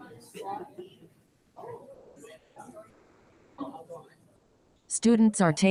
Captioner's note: people chatter indistinctly